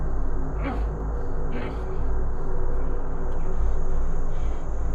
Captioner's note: Dogmouth grunting